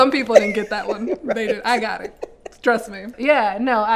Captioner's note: laughing